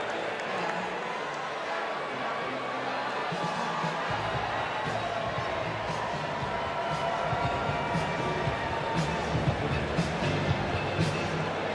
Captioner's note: applause